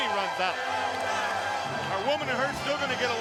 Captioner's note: crowd cheering